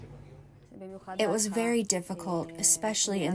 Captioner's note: through translator